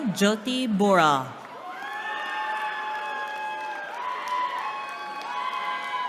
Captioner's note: cheering